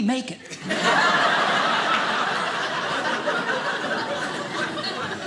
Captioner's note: audience laughing